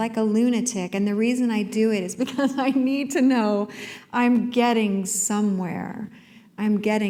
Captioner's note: chuckle